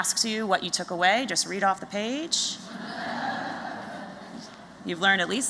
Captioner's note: laughter